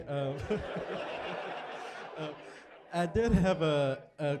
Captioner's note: laughter